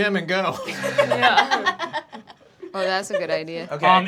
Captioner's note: everyone laughing